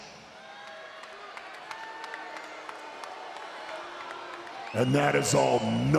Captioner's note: applause